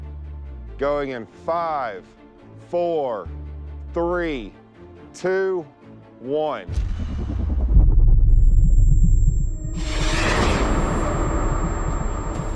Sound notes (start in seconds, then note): 8.4 high pitched buzzing; 9.5 rocket whirring